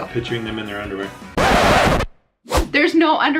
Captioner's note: record scratching